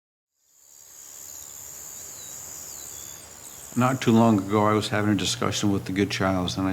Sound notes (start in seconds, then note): 0.3 crickets chirping; 1.0 birds singing